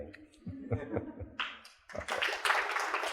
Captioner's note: laughter; applause